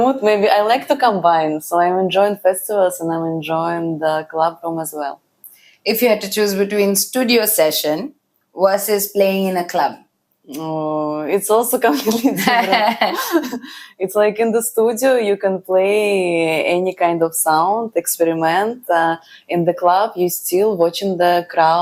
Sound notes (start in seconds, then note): 12.3 laughs